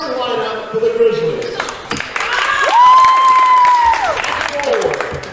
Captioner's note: cheering